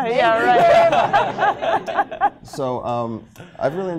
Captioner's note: laughter